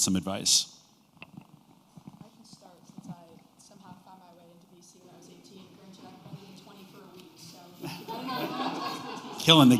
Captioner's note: laughter